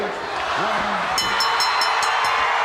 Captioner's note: bell ringing; crowd chattering